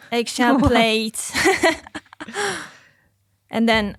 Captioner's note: group laughing